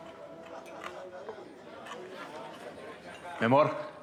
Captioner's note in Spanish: murmullo de risas y voces